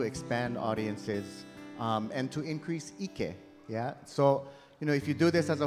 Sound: speaking in Hawaiian

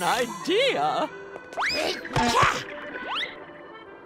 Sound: grunting

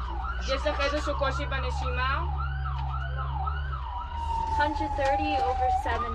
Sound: medic speaking foreign language

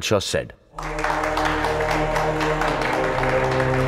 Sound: claps

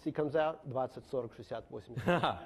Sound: speaks in foreign language; laughing

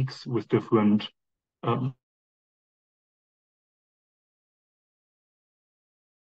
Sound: microphone audio cuts out

